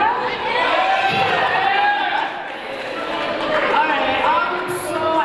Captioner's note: audience cheering